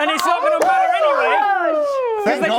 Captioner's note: cheers!